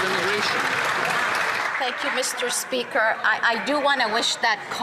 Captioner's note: some Applause